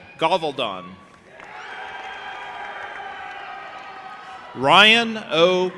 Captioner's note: audience applauding and cheering